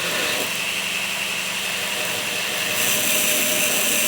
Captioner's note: grinding sound